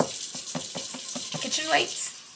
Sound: tap's on counter top

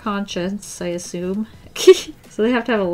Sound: short laugh

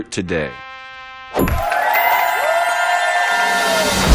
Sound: cheering

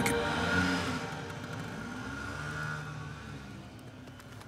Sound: engine reeving

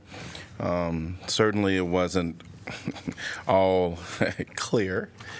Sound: laughter

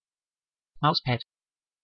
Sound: fast Pronunciation

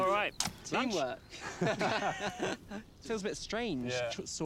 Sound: laughing

